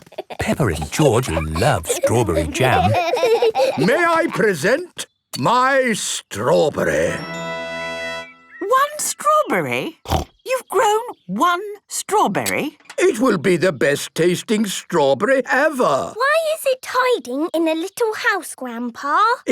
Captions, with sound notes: - Peppa and George love strawberry jam! - (laughing) - May I present, my strawberry! - One strawberry?! You've grown one strawberry! - It will be the best tasting strawberry ever! - Why is it hiding in a little house, Grandpa?